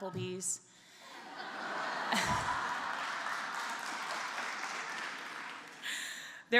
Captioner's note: applause And Laughter